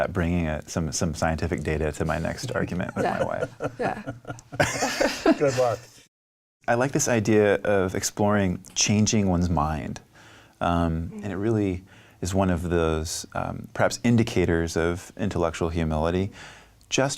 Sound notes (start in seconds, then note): 3.6 laughing